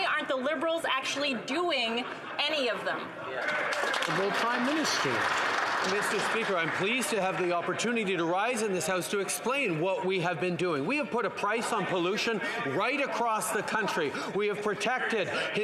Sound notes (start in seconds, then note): 6.3 some Applause